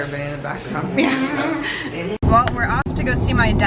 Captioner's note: laughter